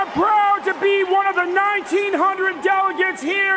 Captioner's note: cheers and applause